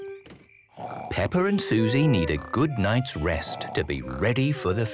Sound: Peppa and Suzy snoring

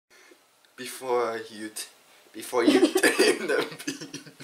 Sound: laughing

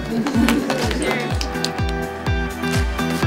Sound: applause

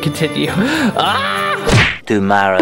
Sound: screams

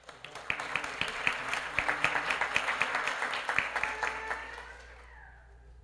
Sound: applause

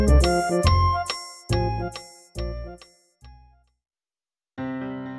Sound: metronome

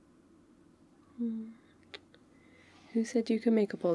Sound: kiss

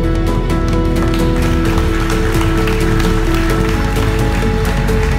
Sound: applause

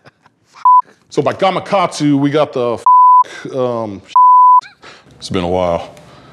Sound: beep

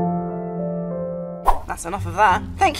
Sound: logo whooshing

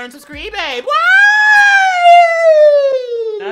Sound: exclaims

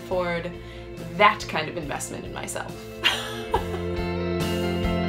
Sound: laughing; upbeat music

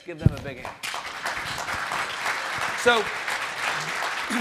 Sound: audience clapping

